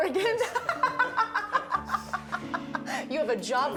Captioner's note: laughing